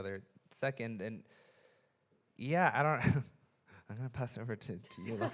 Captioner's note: chuckles